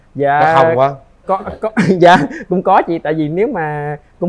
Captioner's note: laughs